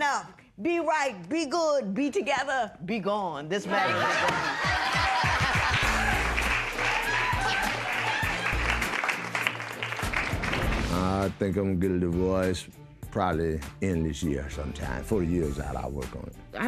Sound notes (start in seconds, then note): 3.6 laughter